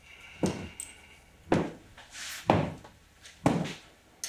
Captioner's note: boots stomping